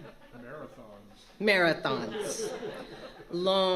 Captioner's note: laughter